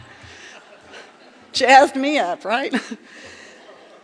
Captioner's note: laughter